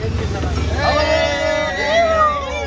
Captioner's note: auto drivers cheering